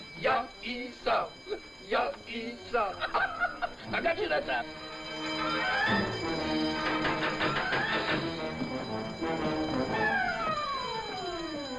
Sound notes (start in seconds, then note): 0.2 speaking in foreign language; 4.0 energetic instrumental music; 5.0 alarms ringing